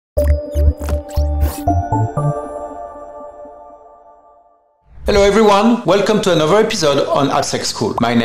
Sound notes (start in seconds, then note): 0.2 curious music; 0.9 pencil squeaking